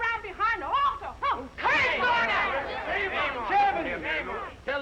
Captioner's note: all shouting